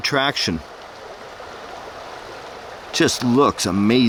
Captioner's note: water raging